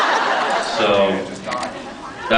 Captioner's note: laughs; off mic